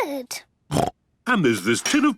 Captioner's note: snorts